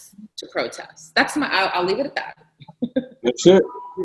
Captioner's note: laughs